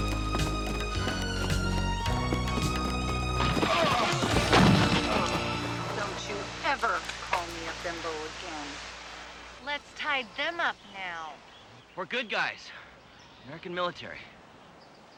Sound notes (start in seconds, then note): 2.7 bodies thudding; 3.5 men groaning